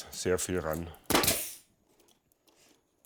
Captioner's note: banging